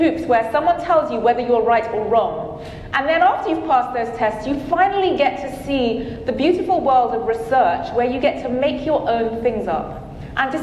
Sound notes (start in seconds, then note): none